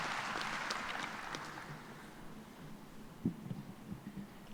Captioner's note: cheers and applause